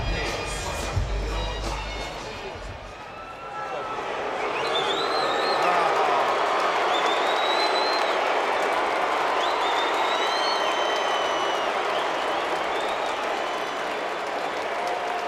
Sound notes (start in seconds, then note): 2.9 applause